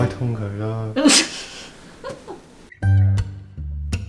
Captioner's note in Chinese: 又一段奇怪的笑聲